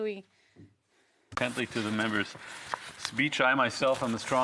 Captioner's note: speaking French